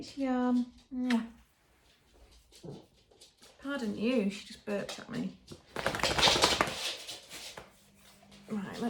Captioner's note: kiss noise